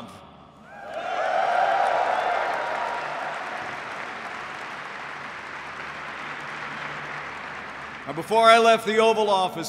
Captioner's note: applause